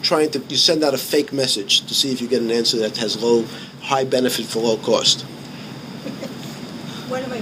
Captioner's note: laughing